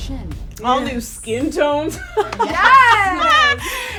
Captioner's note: laughs